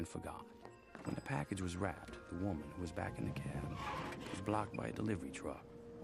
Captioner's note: car screeches to a quick stop